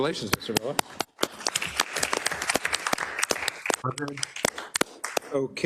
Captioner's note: applause